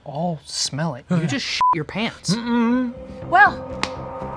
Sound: beep

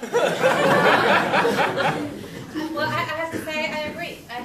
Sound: laughter

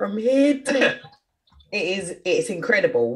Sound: laughs

